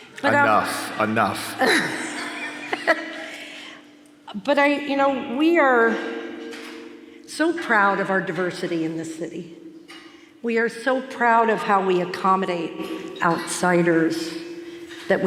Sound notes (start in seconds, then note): 1.8 laughs